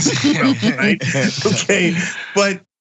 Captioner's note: laugh